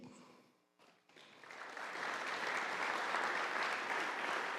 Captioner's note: audience applauding